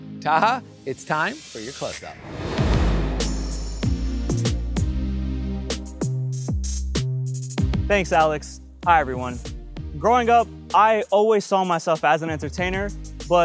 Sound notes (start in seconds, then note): 1.3 air whooshing; 3.7 upbeat music